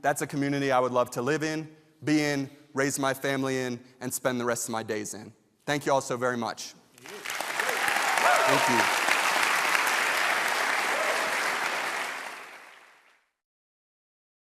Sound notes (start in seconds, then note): 6.9 audience clapping